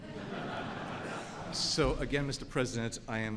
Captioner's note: laughter